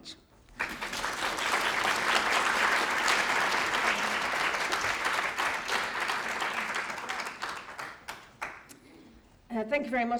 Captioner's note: applause